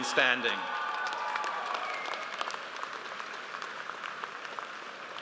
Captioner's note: audience applauds